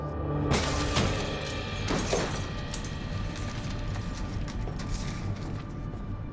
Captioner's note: tense music; pensive music; glass shattering